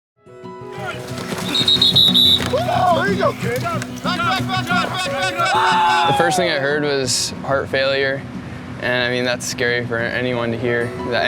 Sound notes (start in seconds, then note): 0.9 whistle blowing; 2.8 shouting